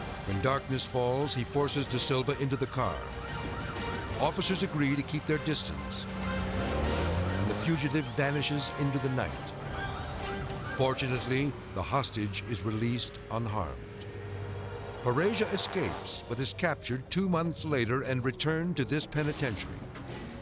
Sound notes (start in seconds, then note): 3.1 siren wailing